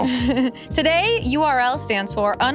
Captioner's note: laugh